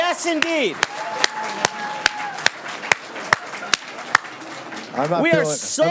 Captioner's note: students cheering and applauding